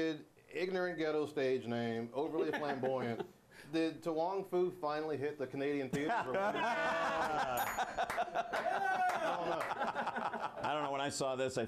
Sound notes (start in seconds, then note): 7.6 bell rings; 9.4 laughter